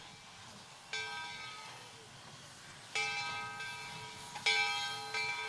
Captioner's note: bell clanging